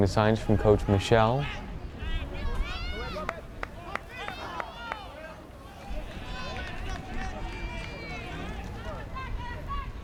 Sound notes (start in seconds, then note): 4.1 fans yelling